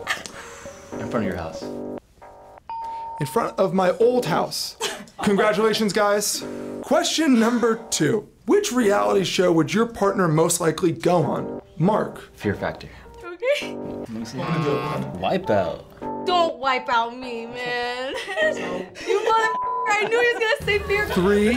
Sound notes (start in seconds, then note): 0.0 laughs; 2.7 bell rings; 14.3 buzzer rings